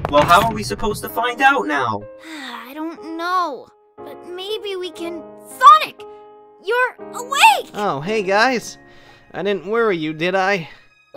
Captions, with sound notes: Well how are we supposed to find out now? *sigh* I don't know. But maybe we can- Sonic!! You're... awake! Oh, hey guys. I didn't worry you, did I?